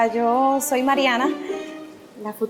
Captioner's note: nervous